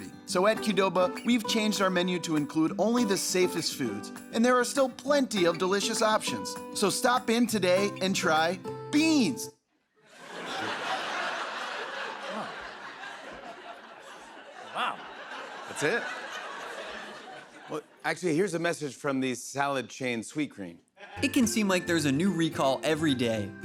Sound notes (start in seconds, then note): 10.1 laughter